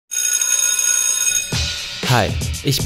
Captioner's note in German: Schulklingeln